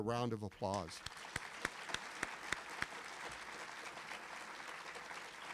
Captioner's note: audience applauding